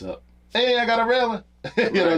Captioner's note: laughs